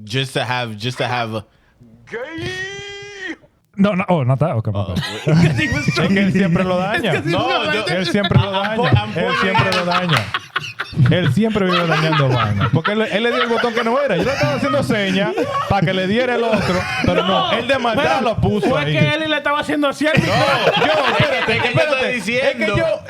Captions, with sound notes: Just to have, just to have a-- Gay! No, no, oh, not that outcome. (Laughing) (Speaking In Foreign Language) No! (Speaking In Foreign Language) Take it better, easy, easy, no.